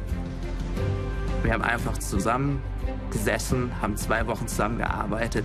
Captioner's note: non-english speech